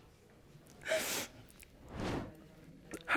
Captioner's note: sobbing